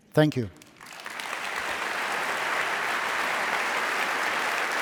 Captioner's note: audience applauding